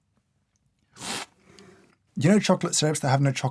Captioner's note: slurp